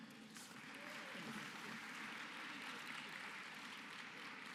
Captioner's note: applause